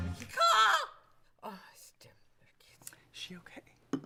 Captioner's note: screeches